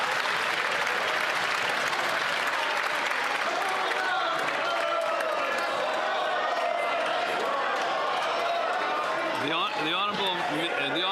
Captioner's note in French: applaudissements